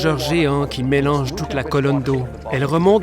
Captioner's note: water bubbling